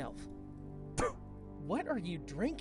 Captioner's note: spits